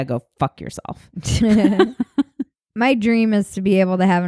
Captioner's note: laughing